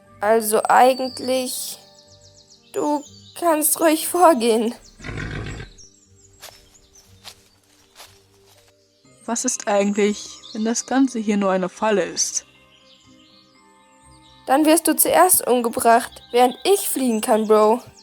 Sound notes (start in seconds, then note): 4.9 snort